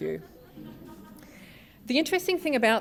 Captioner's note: laughter